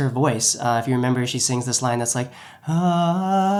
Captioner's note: humming